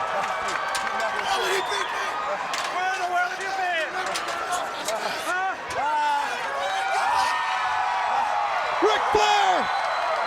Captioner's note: crowd cheering